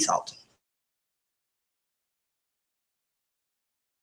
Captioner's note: silence